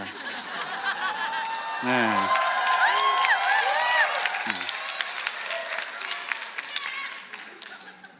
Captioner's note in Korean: 박수와 환호